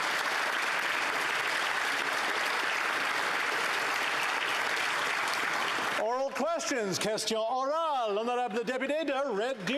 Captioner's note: applause